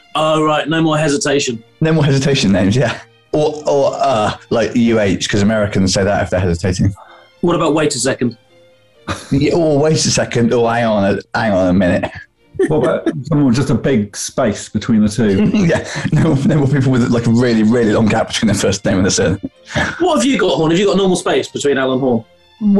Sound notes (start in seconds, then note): 9.0 chuckles; 12.6 giggling